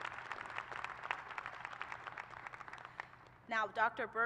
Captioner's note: applause